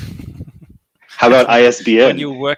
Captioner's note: laughing